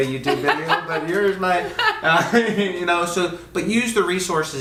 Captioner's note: laughs